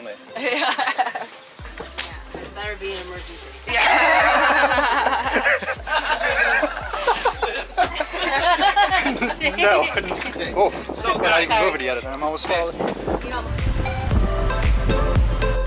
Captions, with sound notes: (Giggles) Better be an emergency. [Everyone Laughing] Woah, we're not even moving yet and I'm almost falling.